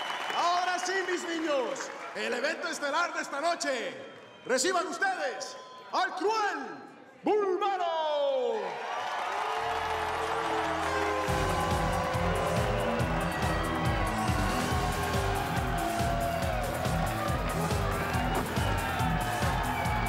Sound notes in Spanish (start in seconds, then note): 8.7 aplausos y exclamaciones